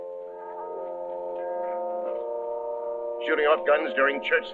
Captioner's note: church bells ringing